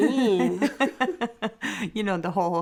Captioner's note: laughing